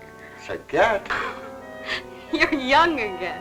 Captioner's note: laughing